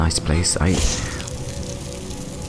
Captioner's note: zap